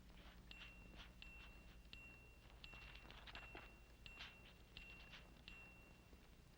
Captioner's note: chime rings